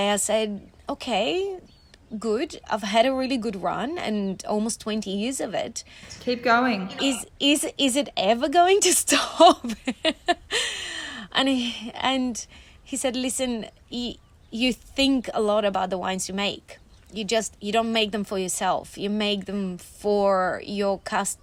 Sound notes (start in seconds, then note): 10.5 laughing